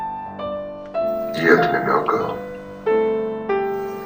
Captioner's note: voiceover of man speaking in french